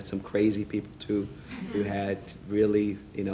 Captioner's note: laughing